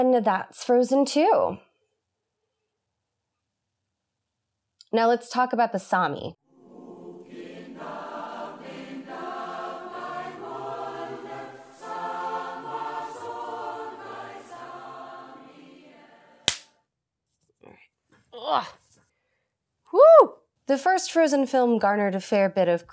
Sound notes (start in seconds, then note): 16.4 clap